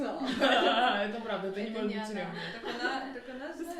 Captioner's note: feminine laughter